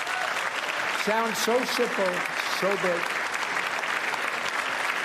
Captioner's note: applause